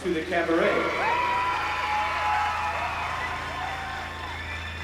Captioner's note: applause and cheering